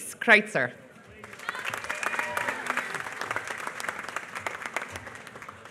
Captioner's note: applause